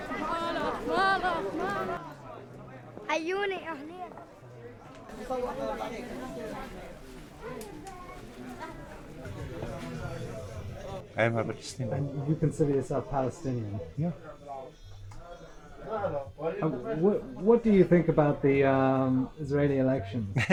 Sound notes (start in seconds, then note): 12.9 voiceover; 17.0 voiceover